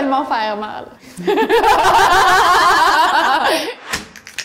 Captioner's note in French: rires